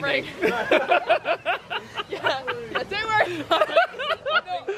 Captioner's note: laughs